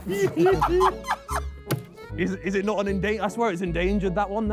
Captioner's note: Sidemen laugh